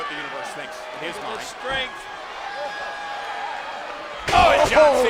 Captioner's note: body thudding